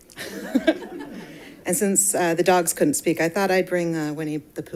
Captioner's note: laughs